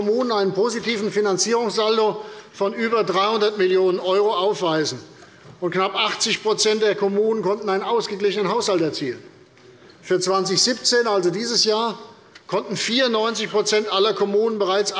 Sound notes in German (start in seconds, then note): none